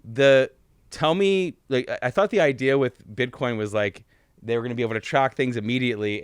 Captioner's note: none